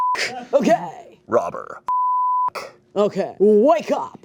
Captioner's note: beep